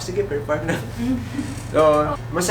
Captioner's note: laughs